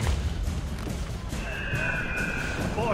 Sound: eagle screech

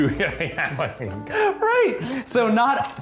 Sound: laughing; laughs

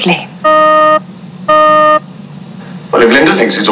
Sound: beep

